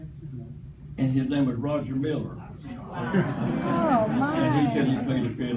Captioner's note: crowd excited